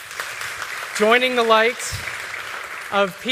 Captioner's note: applause